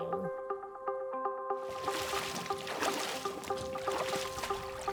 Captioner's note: water splashing